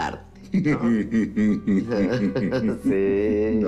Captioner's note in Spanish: Risas